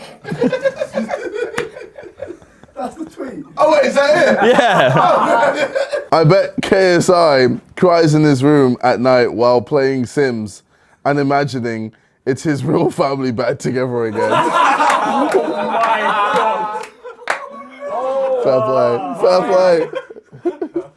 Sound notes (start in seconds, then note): 0.0 laughs; 0.1 audience laughs; 14.1 audience laughs; 14.1 laughs